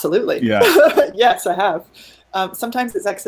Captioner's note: laughing